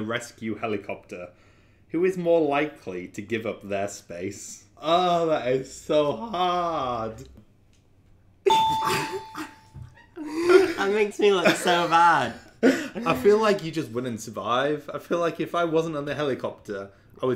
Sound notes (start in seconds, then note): 8.4 beep; 8.5 laughs